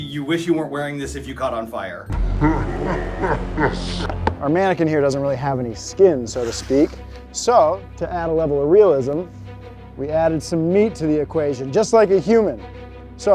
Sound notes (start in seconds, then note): 2.2 evil laughter